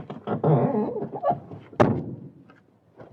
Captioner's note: door closes